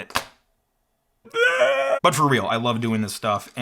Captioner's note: cries